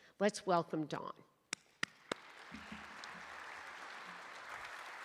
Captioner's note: applause